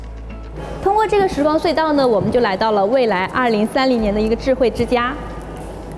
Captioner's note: speaking in Chinese